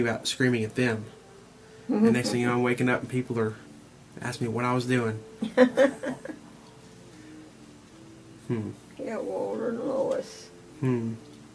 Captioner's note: laughs... Yeah